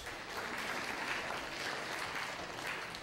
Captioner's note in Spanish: clase aplaude